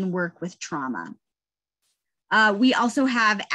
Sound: none

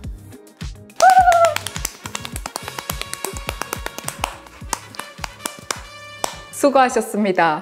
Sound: happy spring claps

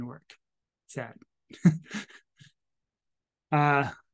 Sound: chuckles

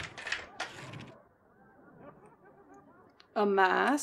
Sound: more Clicking / Unlocking; audience Laughter

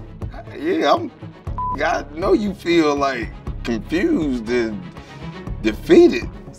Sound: beep

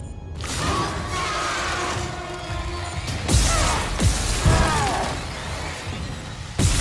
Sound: creature screeching; gun blasting

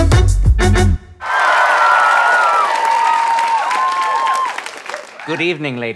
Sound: audience cheering

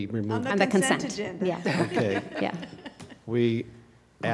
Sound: laughter

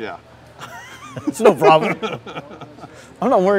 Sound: laughter

